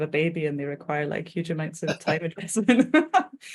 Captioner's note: both laughing